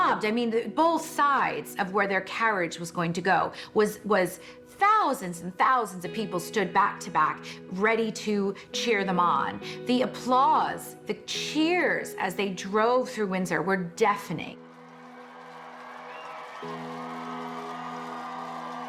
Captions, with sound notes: I mean, both sides of where their carriage was going to go was thousands and thousands of people stood back-to-back ready to cheer them on. The applause, the cheers as they drove through Windsor were deafening. (crowd cheering)